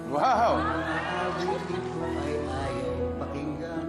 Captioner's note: crowd gushing